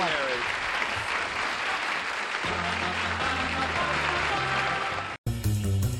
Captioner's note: applause